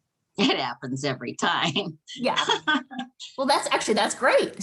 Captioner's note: laughs